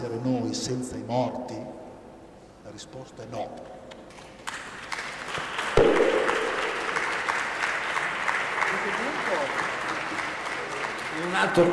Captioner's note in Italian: Applauso